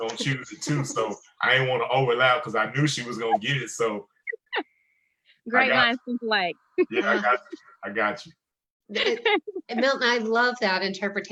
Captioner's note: giggling